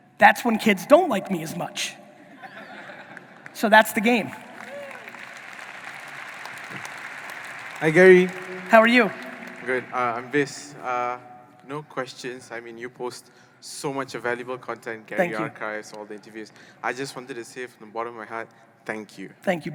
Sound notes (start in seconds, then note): 2.2 audience laughing; 4.8 audience applauding